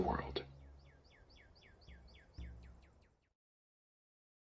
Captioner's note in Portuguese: Som de pássaros desvanecendo